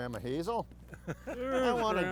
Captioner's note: laugh